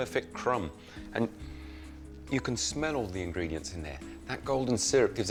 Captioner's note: sniffs